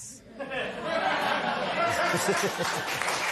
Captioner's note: laughter; applause